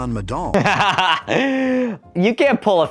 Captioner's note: laughs loudly